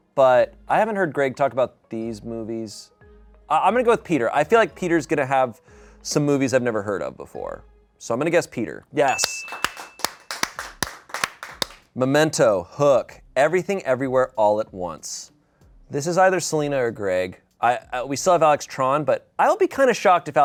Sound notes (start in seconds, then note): 9.0 bell dings; 9.2 people applaud